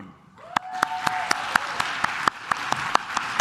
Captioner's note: claps